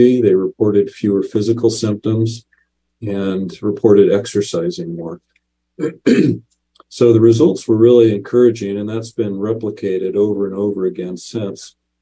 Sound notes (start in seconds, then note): 5.8 clears throat